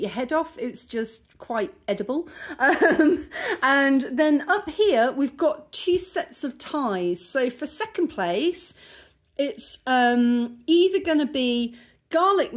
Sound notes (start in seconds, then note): 2.6 laughing